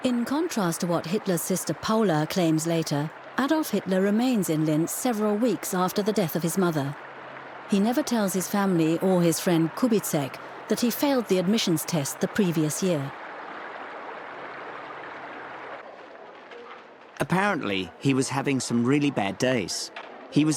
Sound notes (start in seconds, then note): 13.6 water splashing